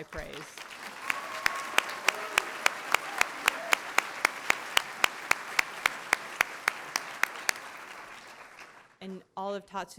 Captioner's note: applause